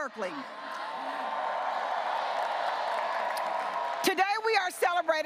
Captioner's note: audience cheering and applauding